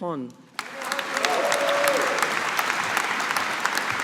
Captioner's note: audience applauding